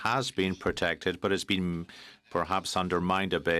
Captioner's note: speaking in French